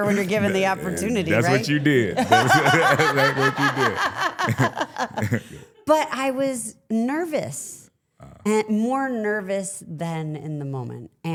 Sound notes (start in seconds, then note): 2.2 laughing; 3.6 laughs